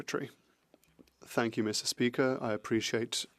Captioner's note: speaking French